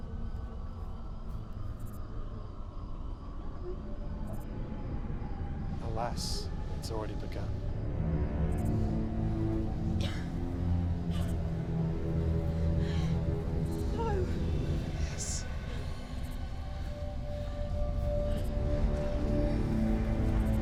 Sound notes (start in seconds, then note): 0.3 crickets chirping; 0.3 eerie music; 8.0 crickets chirping; 8.0 eerie music; 10.0 Mia coughing; 10.0 eerie music; 15.9 eerie music